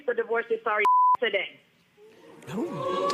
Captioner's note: beep